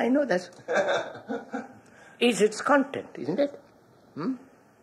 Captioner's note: laughter